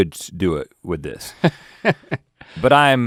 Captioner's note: Link laughing